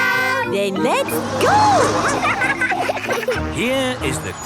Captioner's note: laughing